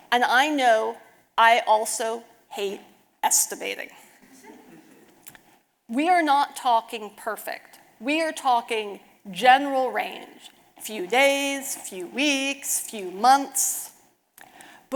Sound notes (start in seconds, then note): 4.5 audience laughing